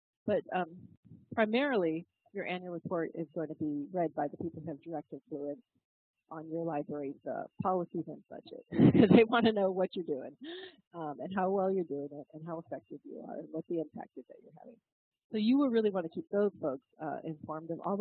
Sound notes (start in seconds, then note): 8.6 laugh